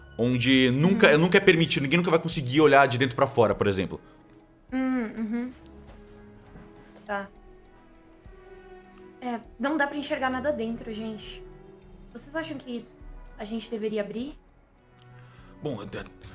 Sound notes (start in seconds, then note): 4.9 hums in understanding